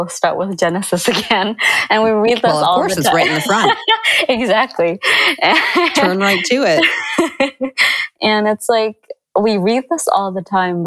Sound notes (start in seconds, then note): 5.4 laughter